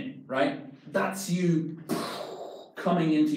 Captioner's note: exhales loudly